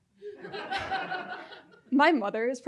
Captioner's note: audience laughing